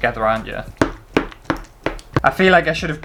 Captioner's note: metal Spoon Tapping Bowl